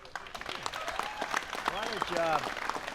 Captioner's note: applause